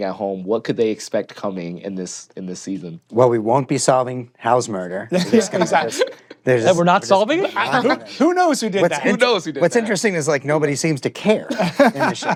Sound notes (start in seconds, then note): 5.1 laughter